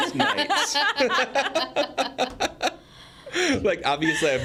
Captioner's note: group laughs